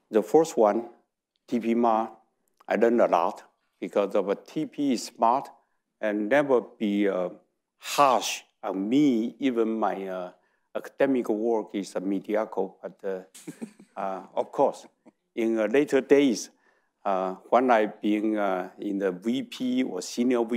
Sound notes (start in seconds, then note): 13.4 laughs